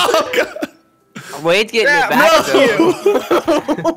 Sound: laughing

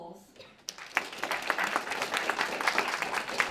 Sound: applause

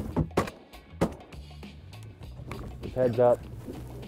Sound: gunshots

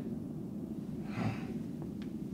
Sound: grumbling sigh

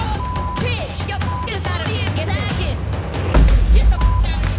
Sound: beep sound; beep sound

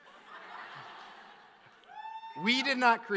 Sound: audience laughs

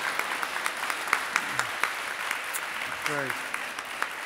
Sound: audience applauding

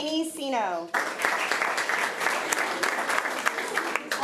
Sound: applause

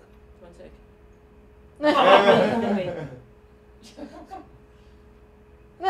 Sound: laughter

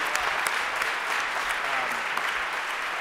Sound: applause

